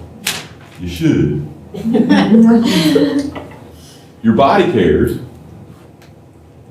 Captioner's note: laughter